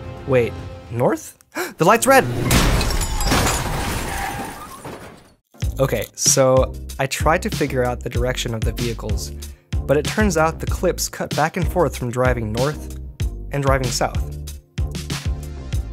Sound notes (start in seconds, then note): 2.0 cars crash; 5.6 upbeat music